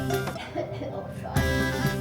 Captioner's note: cough cough